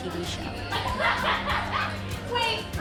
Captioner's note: all laughing